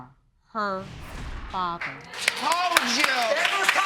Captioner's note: audience clapping